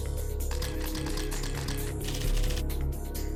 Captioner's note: shutter sounds